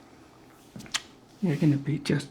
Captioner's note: the sound of kissing